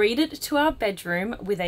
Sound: none

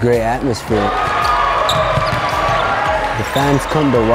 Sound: crowd cheering

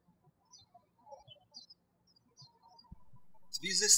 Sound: birds chirping

